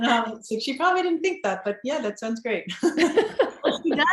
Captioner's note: laughs